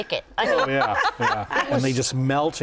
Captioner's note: laughter